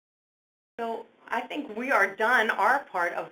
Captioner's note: voiceover